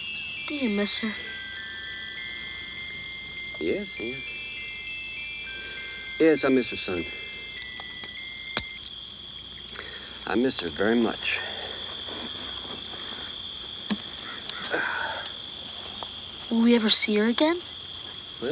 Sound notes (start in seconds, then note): 7.5 pocket watch clicks; 14.6 Anthony sighs